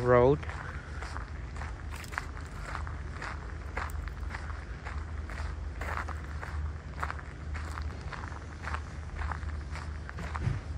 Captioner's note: walking on gravel